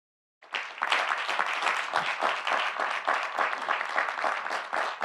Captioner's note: audience applauding